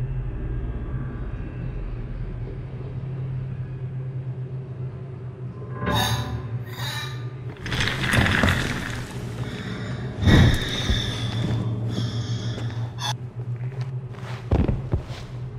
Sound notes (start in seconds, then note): 5.7 gasps; 7.5 wheels rolling sound